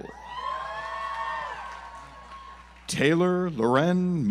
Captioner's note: audience applauds